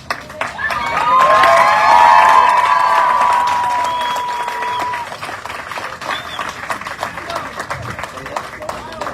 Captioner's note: audience cheering, applauding